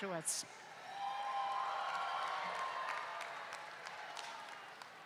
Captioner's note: everyone cheers